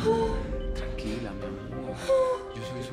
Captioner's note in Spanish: Sollozos